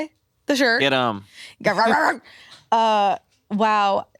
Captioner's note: barking